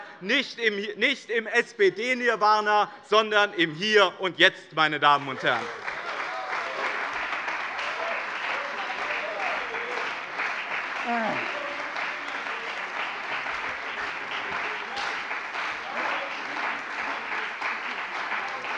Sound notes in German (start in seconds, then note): 6.6 Anhaltender Beifall bei dem BÜNDNIS 90/DIE GRÜNEN und der CDU